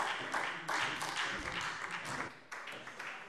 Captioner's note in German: Beifall SPD